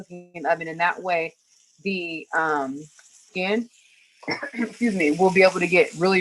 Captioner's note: coughs